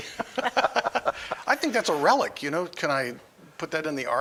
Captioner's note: laughing